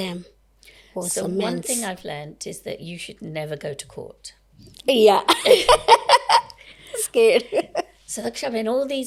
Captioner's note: laughter